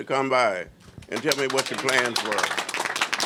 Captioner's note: applause